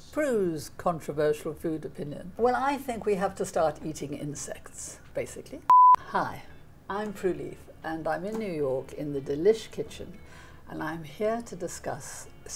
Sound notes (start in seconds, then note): 5.7 beep